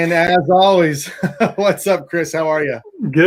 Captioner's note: chuckles